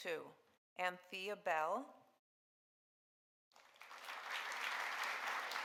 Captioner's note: audience applauding